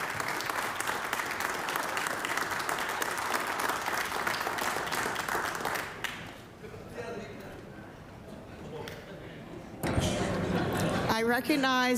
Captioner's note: applause